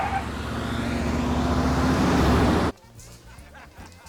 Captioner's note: tires screeching; van revving